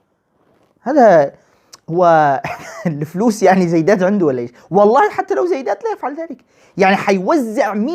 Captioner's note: laughing